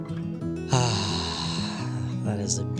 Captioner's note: sighs